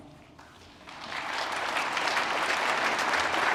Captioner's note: applause